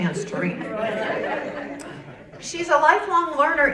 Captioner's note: audience laughing